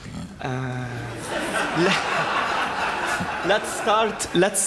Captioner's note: laughter